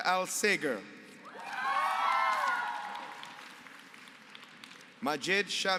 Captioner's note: applause